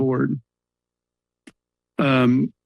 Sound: pause

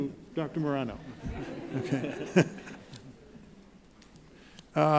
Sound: laughing

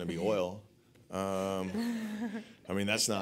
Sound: laughs

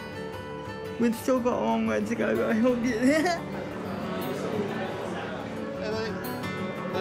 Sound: laughs

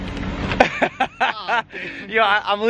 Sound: Logan laughs

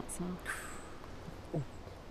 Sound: intake of breath

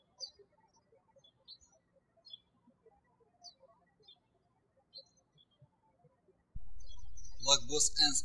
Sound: birds chirping

